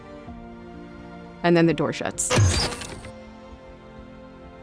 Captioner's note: door slides shut